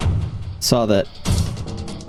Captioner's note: gunshots